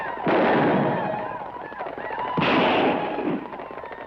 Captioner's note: guns fire